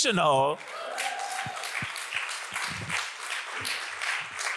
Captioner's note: audience applauds